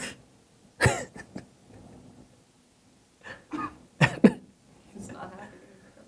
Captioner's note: laughter